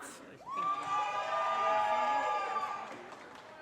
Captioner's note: audience cheers and applause